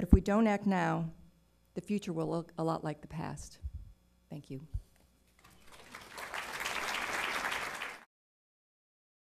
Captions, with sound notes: if we don’t act now, the future will look a lot like the past, thank you. (audience clapping)